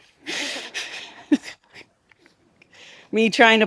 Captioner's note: all laughing